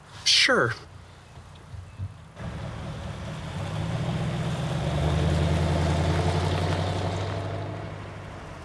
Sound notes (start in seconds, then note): 2.3 car engine roaring